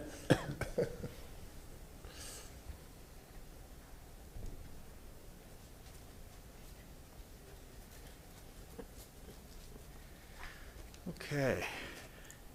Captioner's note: laughter